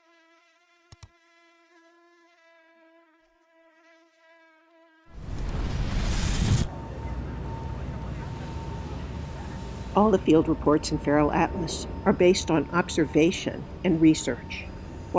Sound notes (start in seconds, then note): 0.0 insect buzzes; 5.1 explosion whooshes; 5.5 mouse click; 7.2 background urban noises play